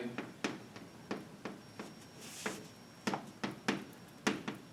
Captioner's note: chalk tapping